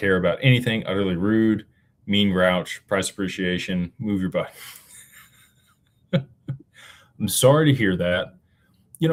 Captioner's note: laughter